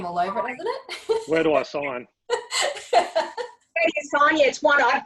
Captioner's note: laughs